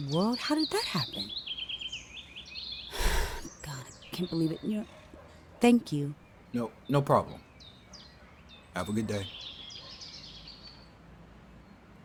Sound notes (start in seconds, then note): 2.9 sigh; 9.3 birds chirping